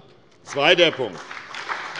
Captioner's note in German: Beifall bei der SPD